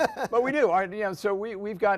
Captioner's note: laughs